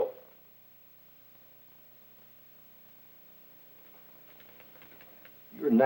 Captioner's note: silence